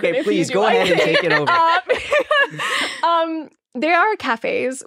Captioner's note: laughing